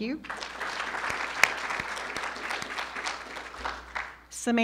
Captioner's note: audience applauding